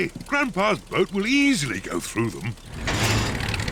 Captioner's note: clunks and splutters